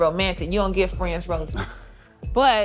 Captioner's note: laughs